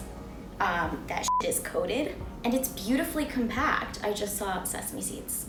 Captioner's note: beep